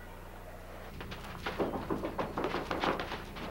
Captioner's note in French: On cogne à la porte